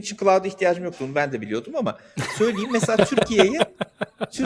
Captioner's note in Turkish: kahkaha